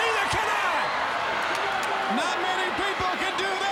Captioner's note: crowd cheering